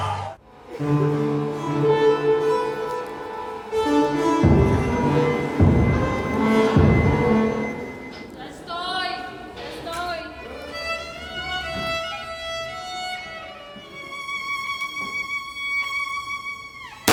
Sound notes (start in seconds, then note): 4.7 hospital sounds; 10.3 violin Sound